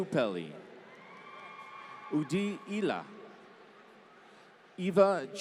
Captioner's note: applause